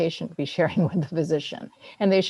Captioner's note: laughs